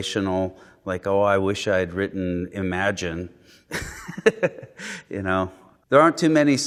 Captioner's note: laughing